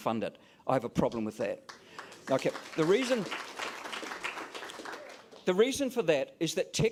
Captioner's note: applause